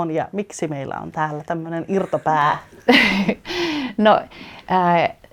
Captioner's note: Naurahtelua